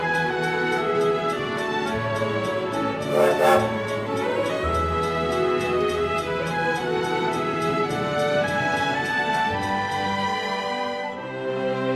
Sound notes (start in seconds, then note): 3.0 train horn blowing